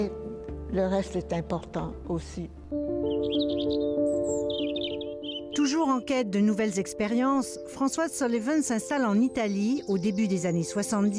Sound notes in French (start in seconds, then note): 3.6 gazouills d'oiseaux